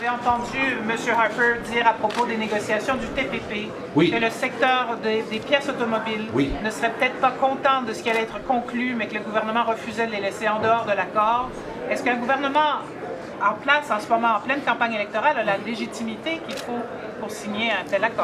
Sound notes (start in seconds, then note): 1.4 speaking French; 7.5 speaking French